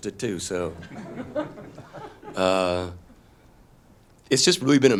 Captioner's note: reporters laugh